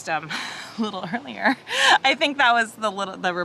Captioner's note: chuckles